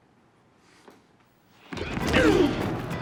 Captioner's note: grunts